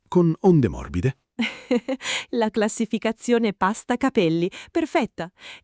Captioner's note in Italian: Haha